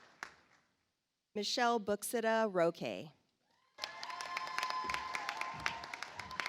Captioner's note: audience applauds